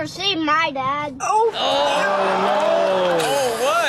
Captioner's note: audience groans